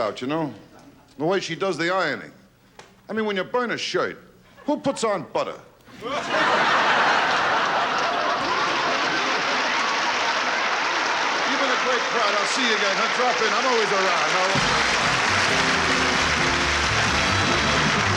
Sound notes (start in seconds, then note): 5.9 laughing; 8.9 applause; 15.7 applause